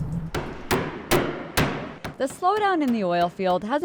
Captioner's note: mallet pounding